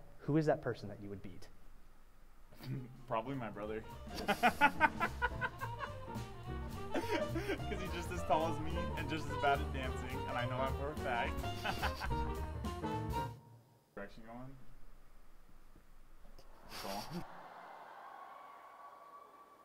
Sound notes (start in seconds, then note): 11.3 laughs; 17.2 cheering